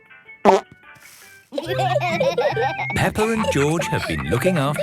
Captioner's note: laughter